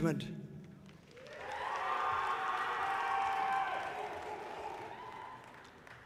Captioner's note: audience cheering loudly